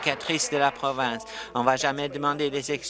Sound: applause

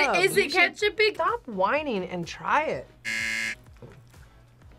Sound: buzzer rings

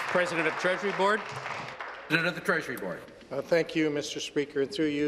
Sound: applause

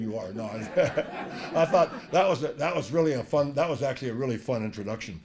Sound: laugh

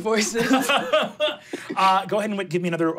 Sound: laughing

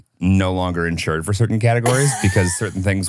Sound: laughs

